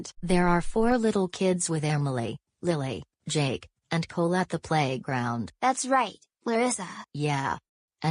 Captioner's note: none